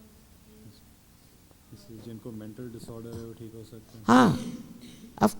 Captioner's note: repeats the question in Hindi